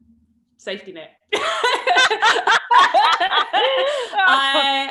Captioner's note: laughs